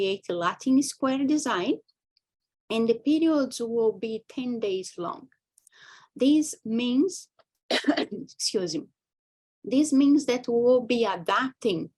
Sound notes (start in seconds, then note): 7.7 coughs